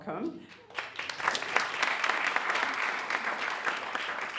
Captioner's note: audience applauding